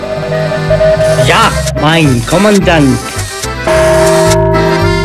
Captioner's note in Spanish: En Alemán